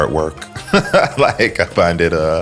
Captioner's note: laughs